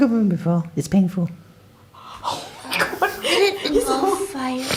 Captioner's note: horrified gasp